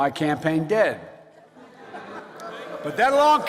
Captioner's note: laughter